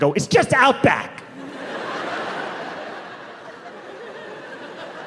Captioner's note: audience laughing